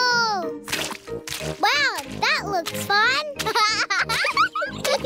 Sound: laughs

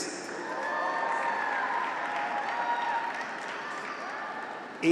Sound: graduates cheer

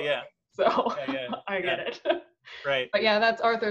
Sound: laughing

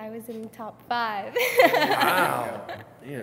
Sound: laughs

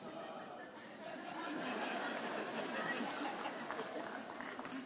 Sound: audience laughing

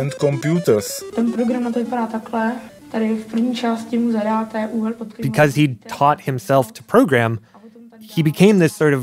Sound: speaking Czech

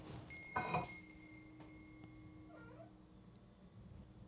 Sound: bell ringing outside

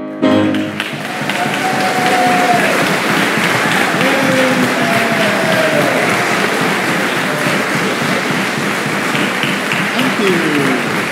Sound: applause

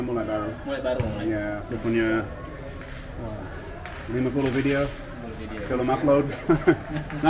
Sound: laughing

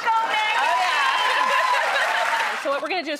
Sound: applause

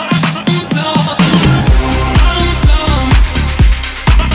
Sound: boom

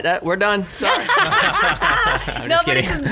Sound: laughs

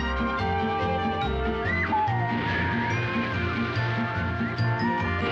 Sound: yelling

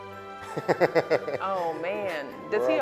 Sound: laughter

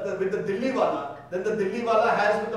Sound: speaking in foreign language

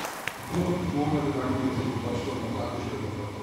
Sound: voices in the background

